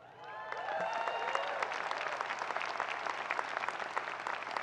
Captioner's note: people clapping